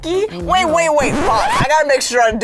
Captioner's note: tape scratching